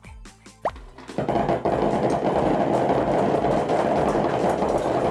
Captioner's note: balls bouncing